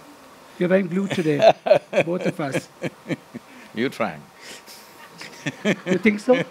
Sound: few laugh; Sadhguru laughs

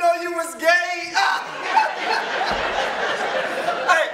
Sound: laughing

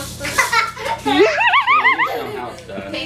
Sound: laughs

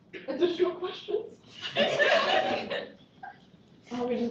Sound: laughter

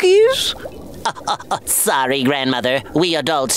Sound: laughing

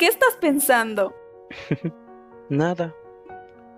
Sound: giggles

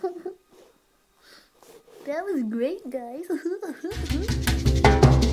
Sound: giggle giggle

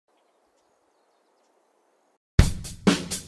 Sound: nature sounds

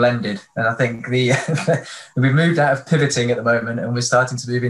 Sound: chuckles

